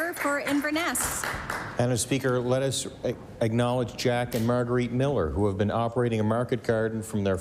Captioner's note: applause